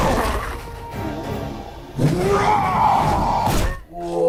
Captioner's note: fist punch